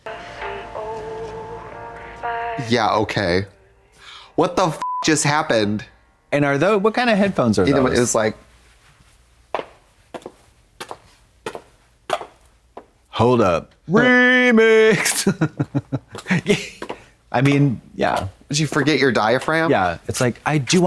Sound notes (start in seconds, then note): 4.8 beep; 9.6 heels clacking